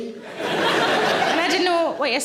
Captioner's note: audience laughing